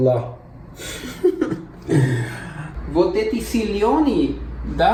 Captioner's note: laugh